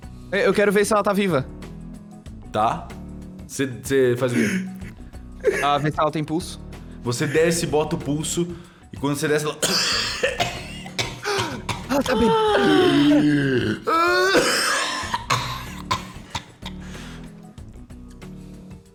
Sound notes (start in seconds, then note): 9.6 hard cough